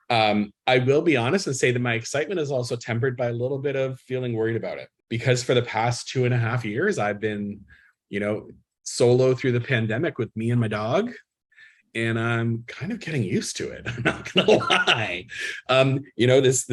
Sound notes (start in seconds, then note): 13.8 laughs